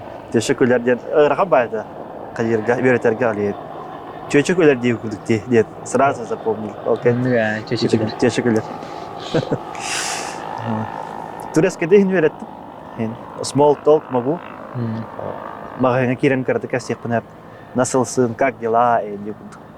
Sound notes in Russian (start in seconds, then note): 5.9 с якутского - "женщина смеется"